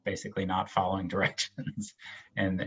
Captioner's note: laughs